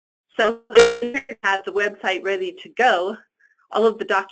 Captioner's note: static